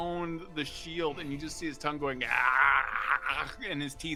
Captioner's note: grunts